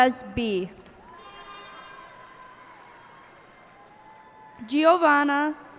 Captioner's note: cheers and applause